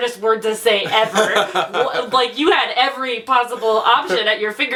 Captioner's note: laughs